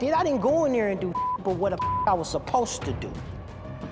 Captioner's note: beep